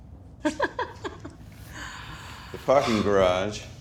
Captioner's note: laughs